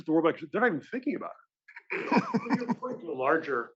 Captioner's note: laugh